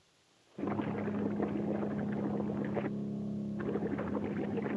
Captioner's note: water bubbles